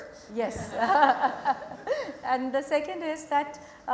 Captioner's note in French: Rires